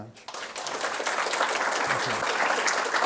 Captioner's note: applause